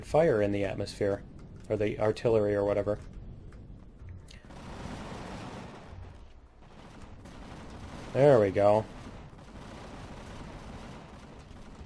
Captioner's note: cannons firing